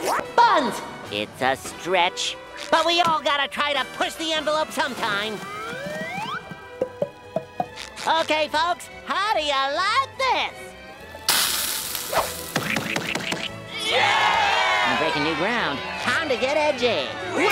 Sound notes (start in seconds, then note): 13.6 crowd cheering